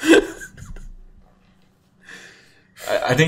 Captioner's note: chuckles